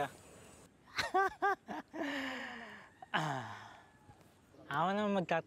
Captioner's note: laughing